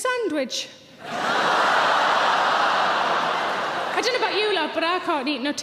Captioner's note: audience cheering